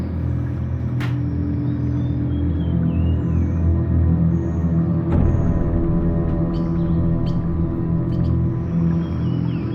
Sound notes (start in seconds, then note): 1.1 microwave door clicking